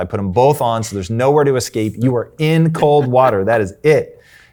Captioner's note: laughs